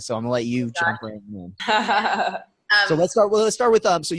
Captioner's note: laughing